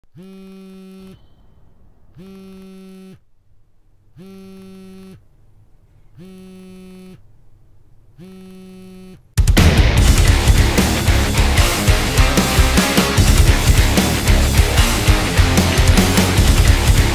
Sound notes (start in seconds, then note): 0.0 cell phone buzzing; 9.4 upbeat rock music